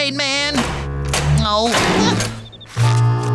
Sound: groaning

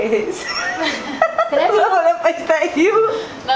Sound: laughing

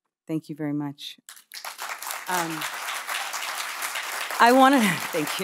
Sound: audience applauding

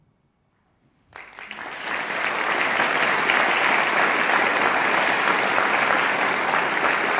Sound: audience applauding

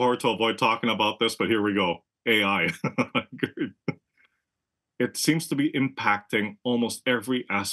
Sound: laugh

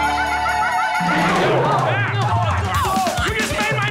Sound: chatting

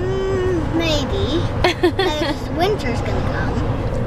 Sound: laughs

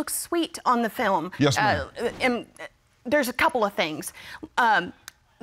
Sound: stammers

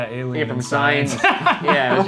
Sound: laughs

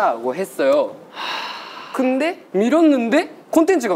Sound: sighing at guessing what's coming

